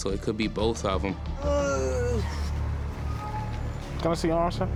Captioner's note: groans